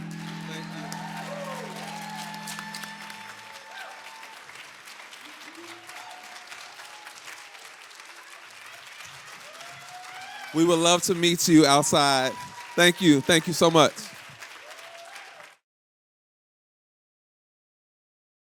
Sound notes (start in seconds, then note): 1.9 applause